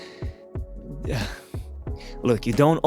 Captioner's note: sigh